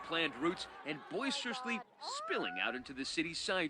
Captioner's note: crowd chanting